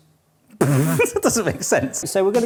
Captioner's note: laughing